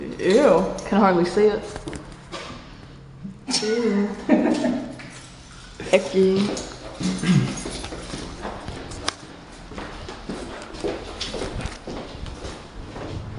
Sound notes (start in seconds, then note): 3.5 laughs